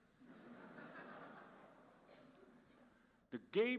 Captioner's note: audience laughs